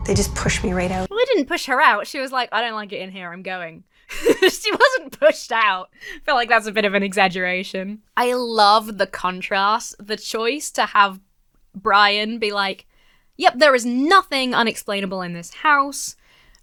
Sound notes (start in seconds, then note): 4.1 laughs